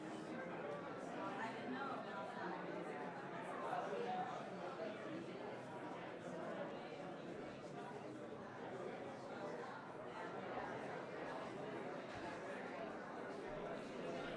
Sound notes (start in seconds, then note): 3.7 crowd chattering